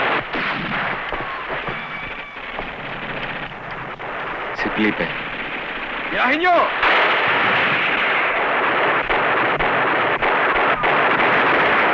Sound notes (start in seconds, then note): 4.0 non-english speech